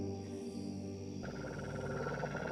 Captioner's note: growling